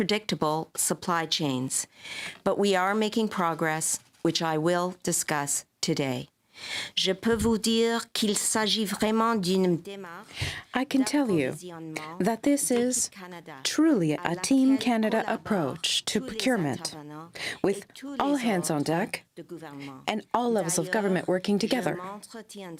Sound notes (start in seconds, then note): 12.0 speaking french